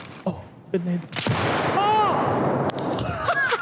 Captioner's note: faintly speaking; gun snaps; laughs